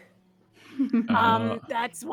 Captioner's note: chuckling